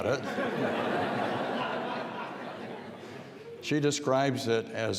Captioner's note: audience laughing